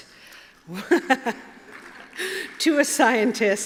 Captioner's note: applause